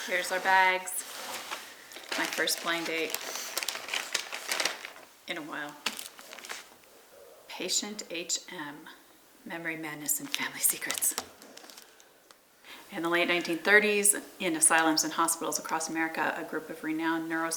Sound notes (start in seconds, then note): 3.1 plastic rustling